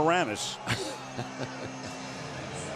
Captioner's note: laughs